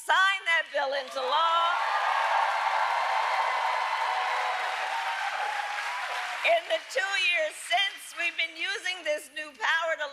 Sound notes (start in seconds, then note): 2.6 applause